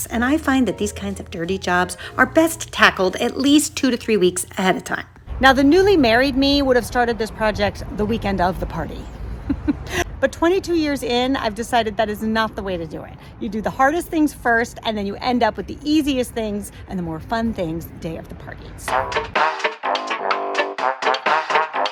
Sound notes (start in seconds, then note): 9.2 laughs; 18.8 upbeat music